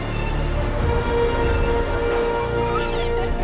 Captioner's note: water spraying; wind whooshing